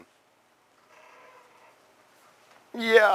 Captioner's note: pause